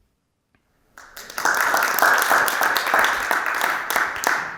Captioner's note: audience applauds